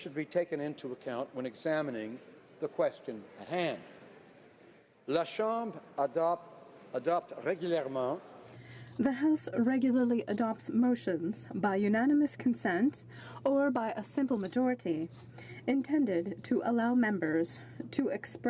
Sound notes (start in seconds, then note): 8.6 speaking French